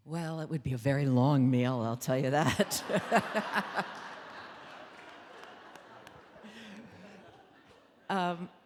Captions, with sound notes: - Well it would be a very long meal, I'll tell you that. (audience laughing)